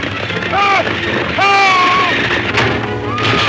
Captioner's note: Morgan shouts; Mary screams